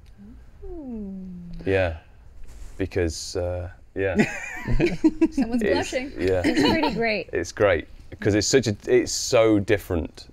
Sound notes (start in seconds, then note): 4.3 laughs